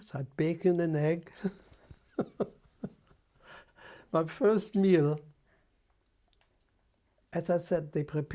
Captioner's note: laughs